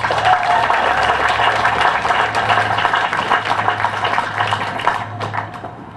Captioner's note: applause